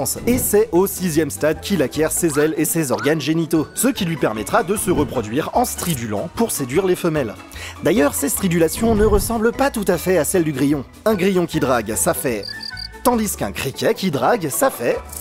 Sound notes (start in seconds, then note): 12.4 chirp chirp chirp